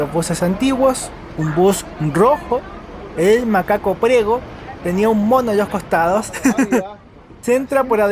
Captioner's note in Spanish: risas